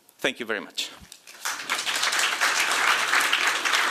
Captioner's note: applause